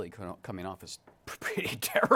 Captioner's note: chuckling